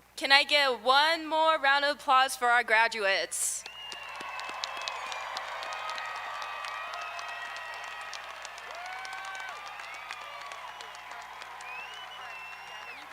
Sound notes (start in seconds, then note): 3.6 audience applauding; 3.6 audience cheering